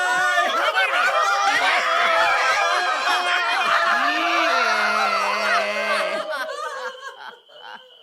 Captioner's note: screaming and yelling